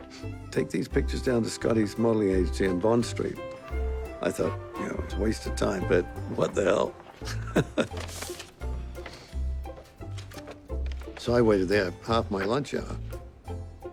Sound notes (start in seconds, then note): 7.1 chuckling